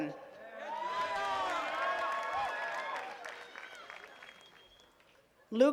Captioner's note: attendees cheering and clapping